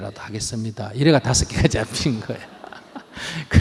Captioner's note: audience Laughter